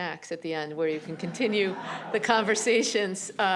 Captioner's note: laughter